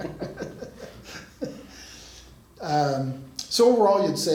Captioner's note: laughs